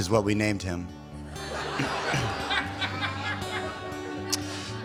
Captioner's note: laughter